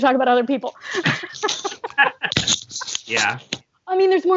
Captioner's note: laughter